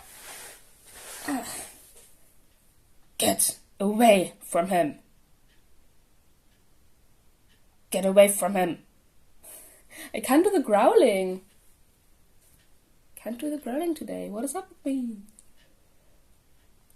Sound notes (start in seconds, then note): 1.2 cough